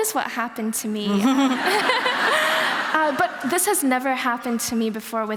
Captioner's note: laughter